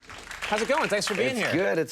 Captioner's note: audience clapping